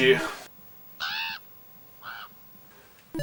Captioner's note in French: Croassements de corbeau